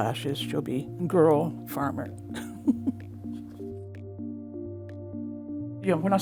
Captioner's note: chuckles; light music continues